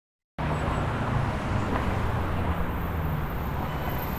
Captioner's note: traffic roaring